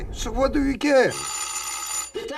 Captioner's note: doorbell rings